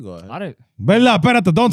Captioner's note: speaking Spanish